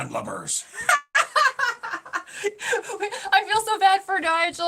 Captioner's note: laughing